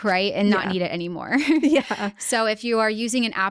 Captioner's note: laughing